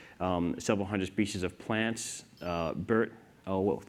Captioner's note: device beeping